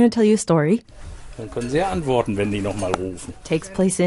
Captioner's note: man speaking in German